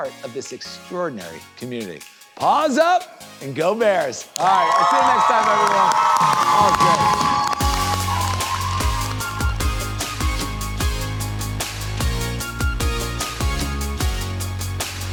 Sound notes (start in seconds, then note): 4.4 group cheers; 7.6 upbeat music